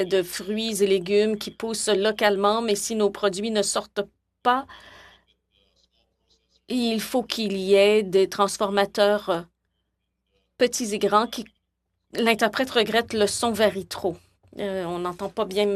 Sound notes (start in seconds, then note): 4.1 speaking French